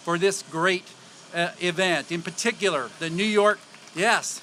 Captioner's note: applause